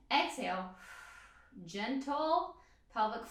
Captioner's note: exhales breath